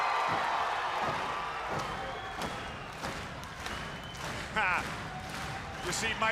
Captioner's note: crowd cheering